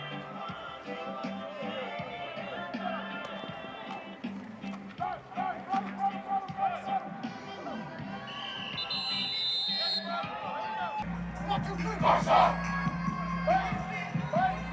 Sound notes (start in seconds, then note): 4.9 players shouting; 8.1 whistle blows